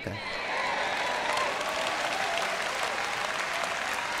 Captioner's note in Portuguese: plateia aplaudindo